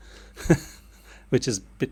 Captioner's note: laughs